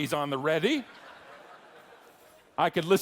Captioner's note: audience laughing